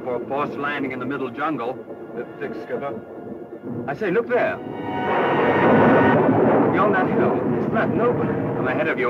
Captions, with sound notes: in the middle jungle. - They're thick Skipper. I say look there! (dramatic music) (thunder crashing) Beyond that hill, it's flat and open. - I'm ahead of you old man.